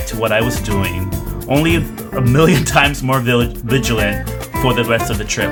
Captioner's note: laughs